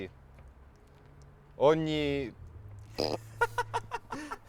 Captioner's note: laughs